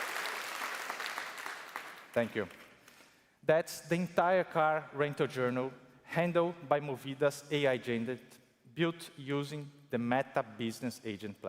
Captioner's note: cheers and applause